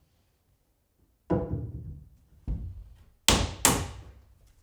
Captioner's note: wood clunking